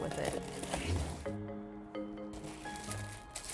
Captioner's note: plastic crinkling